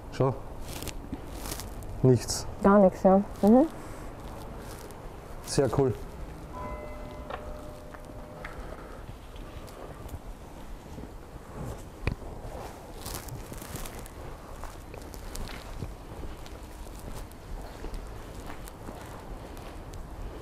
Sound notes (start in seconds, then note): 8.5 wind in the background